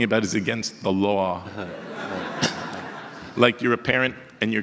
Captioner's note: audience laughter; more audience laughter